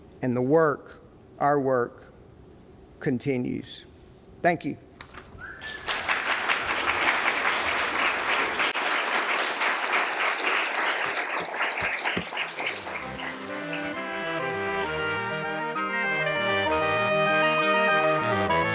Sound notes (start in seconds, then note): 5.5 applause; 12.6 closing music